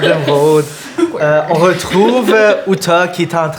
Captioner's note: laughter